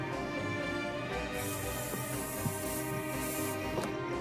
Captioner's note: paint sprays; orchestral music continues